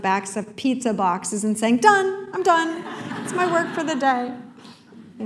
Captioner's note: laughter